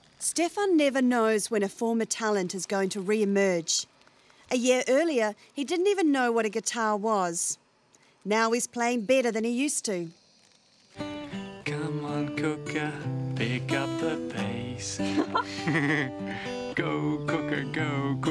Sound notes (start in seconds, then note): 11.0 laughter